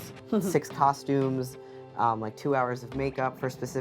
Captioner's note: laughing